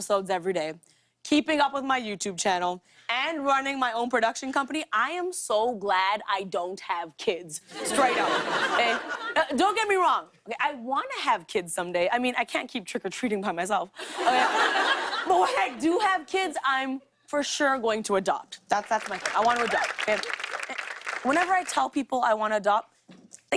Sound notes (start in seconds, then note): 7.7 laughter; 14.0 laughter; 18.9 applause